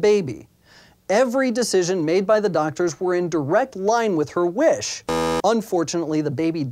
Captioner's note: buzzer